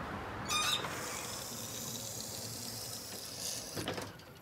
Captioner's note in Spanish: ruido al bajar escalerilla